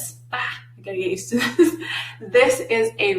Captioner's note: laughs